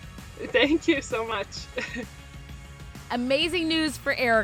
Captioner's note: laughing